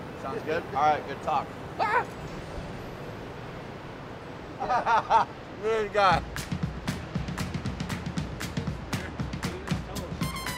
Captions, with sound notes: Sounds good? All right, good talk. [LAUGHS] Look at this guy. [UPBEAT MUSIC PLAYING]